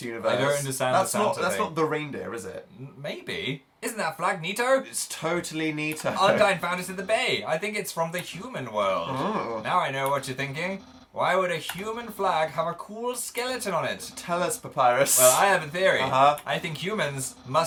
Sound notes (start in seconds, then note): 5.9 chuckles; 13.8 laughing